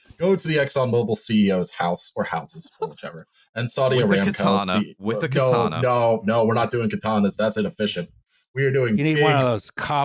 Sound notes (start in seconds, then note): 5.2 laughing